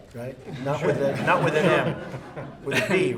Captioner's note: laughter